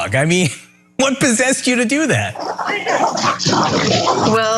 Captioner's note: laugh